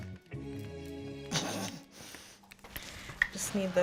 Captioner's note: laughing